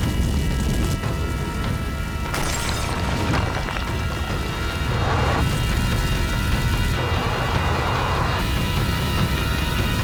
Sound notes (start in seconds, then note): none